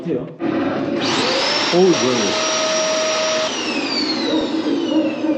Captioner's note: sounds like vacuum cleaner